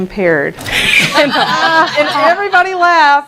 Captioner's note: laughter